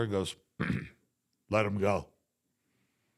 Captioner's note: clears throat